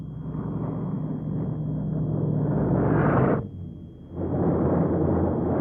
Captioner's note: plane engines roaring